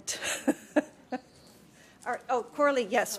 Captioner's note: laughter